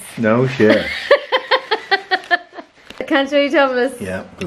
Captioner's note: laughs